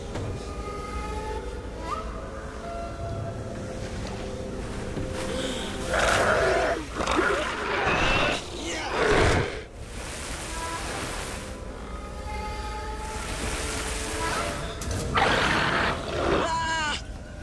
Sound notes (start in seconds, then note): 5.2 gasps; 5.3 snarls